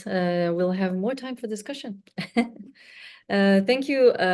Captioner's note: chuckles